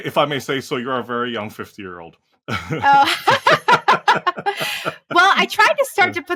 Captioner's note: laugh